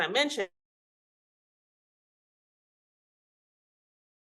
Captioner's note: audio cuts out